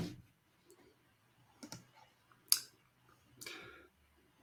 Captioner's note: computer key clicks